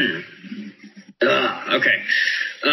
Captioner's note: clears throat